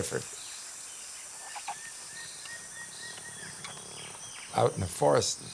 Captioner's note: birds chirping